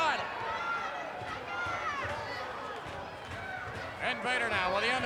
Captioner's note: crowd chattering